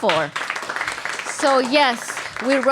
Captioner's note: applause